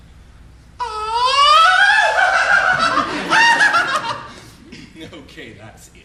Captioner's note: laughs flamboyantly